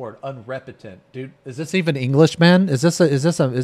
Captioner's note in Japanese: 英語です